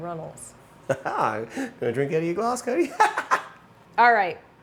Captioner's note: laughs